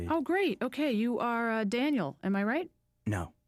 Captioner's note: none